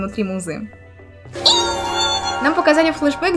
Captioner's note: sounds of joy